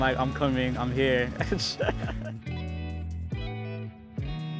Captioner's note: laughs